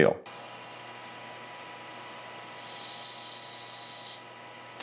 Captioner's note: machinery whirring